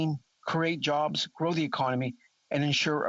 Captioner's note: speaking French